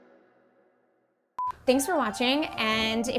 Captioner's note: low beeping